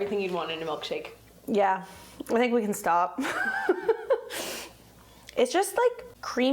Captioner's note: laughs